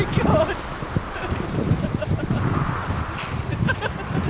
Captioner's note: laughing